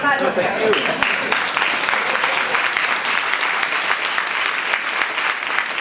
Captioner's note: participants applauding